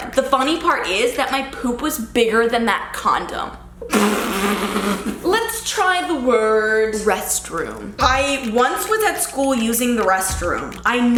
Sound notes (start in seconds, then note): 4.3 laughing